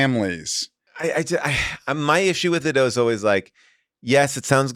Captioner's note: sighs